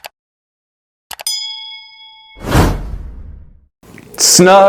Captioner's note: bell dings